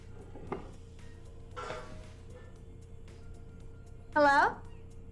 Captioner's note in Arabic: رنين